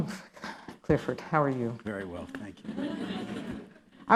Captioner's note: laughter